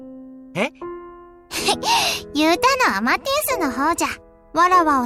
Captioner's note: chuckle